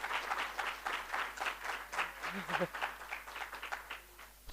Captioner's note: applause